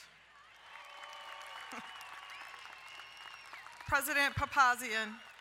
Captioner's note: crowd cheering and applauding